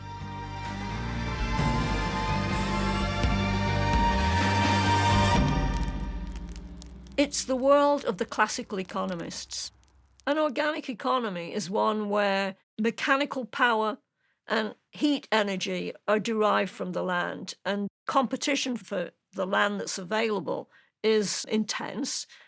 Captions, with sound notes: [dramatic music] [fire crackling] - It's the world of the classical economist. An organic economy is one where mechanical power and heat energy are derived from the land. And competition for the land that's available is intense